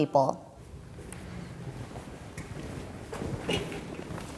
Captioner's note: feet clomping